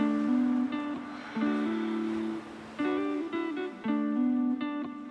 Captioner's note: slow guitar music continues; Fern sighs